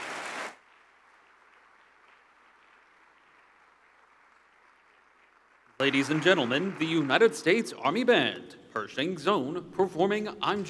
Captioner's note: applause